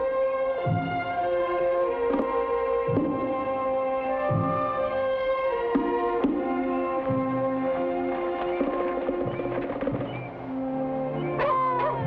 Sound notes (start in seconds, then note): 10.4 birds chirp; 11.2 dogs bark; 11.4 infant cries